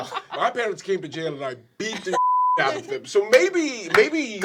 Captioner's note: beep